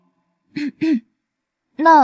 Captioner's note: cough, cough